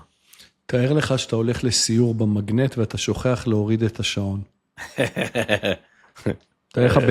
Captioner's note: laughter